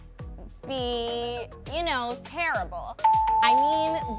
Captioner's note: bell ringing